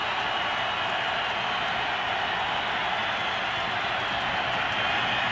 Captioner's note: cheering